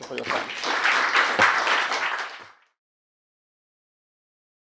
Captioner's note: audience claps